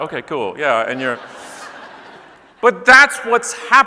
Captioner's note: audience laughing